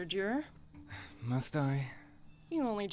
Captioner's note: sigh